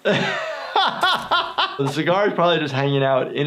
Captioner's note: laughs